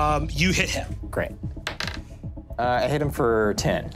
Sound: dice clatters

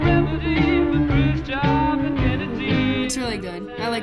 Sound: humming along

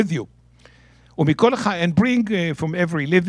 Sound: speaking in Hebrew

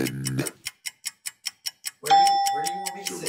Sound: clock ticking sound

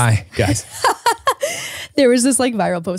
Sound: laughs

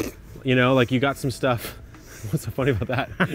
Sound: laughs

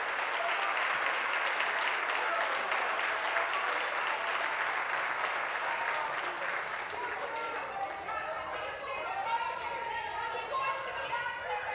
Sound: applause

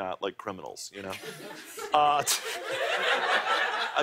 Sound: laughter

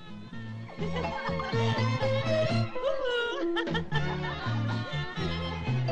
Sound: music in the background, girls pass with Laughing and mocking

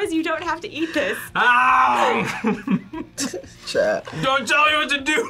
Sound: laughs

